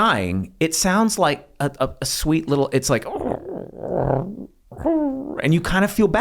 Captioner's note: gurgles